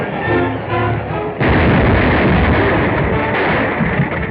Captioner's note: explosion